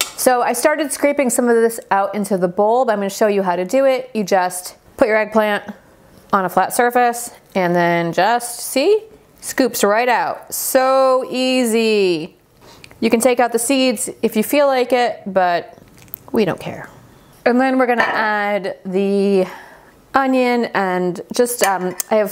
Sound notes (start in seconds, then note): none